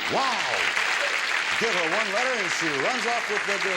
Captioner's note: audience applauds